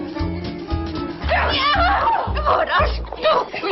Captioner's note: they scream and fight